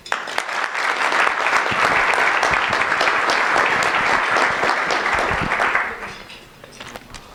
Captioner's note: applause